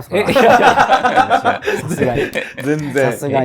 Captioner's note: laughing